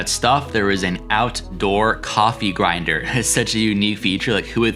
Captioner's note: chuckles